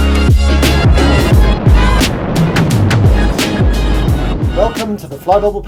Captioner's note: wind whoosing